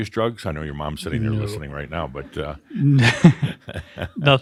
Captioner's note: they chuckle